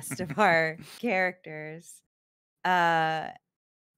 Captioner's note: laughs